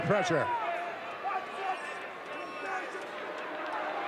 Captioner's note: audience cheering